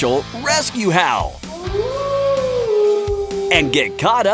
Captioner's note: wolf howling